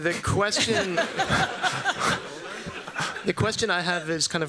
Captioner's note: laughter